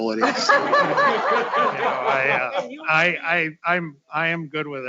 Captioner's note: all laughing